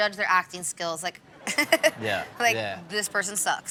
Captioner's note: giggles